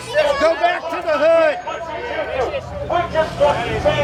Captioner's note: crowd shouting